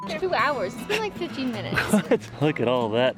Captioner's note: laughs